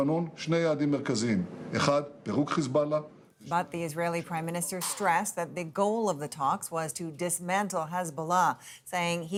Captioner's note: speaking alternate language